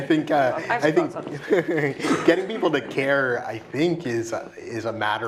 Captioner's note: laugh